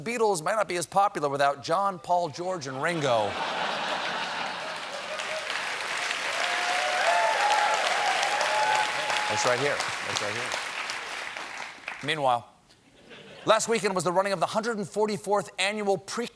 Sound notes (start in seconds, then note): 2.8 laughter; 4.2 applause